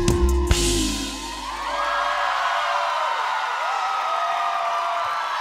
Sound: applause

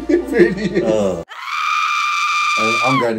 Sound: laughing; voice track screaming

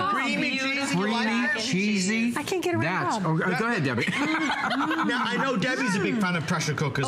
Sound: laughter

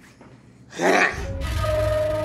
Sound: sighs

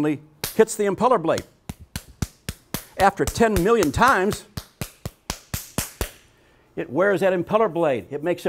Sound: clapping

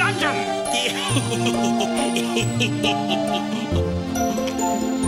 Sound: Wizard laughs nervously

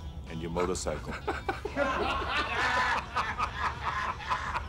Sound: laughs

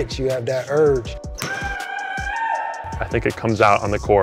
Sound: howling

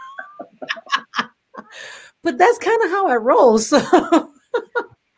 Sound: laughs; laughs

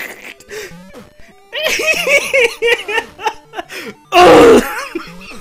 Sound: laughing harder; laughing

